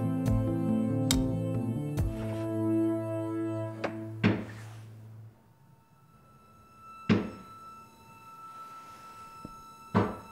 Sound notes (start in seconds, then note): 3.7 loud banging; 3.7 suspenseful music